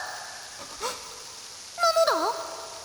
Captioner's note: gasp